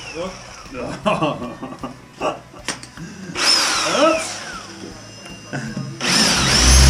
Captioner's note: laughs